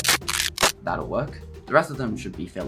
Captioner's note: cracking sounds